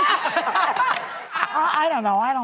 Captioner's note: audience laughing